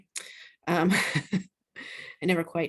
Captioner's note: laughs